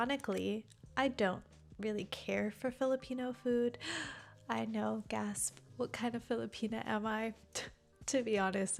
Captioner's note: gasp